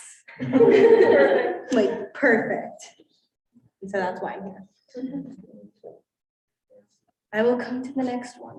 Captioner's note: students laughing